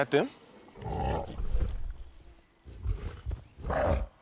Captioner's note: gorillas growling; grunting